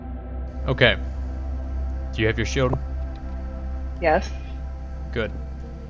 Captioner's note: stompy